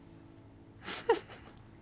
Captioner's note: giggles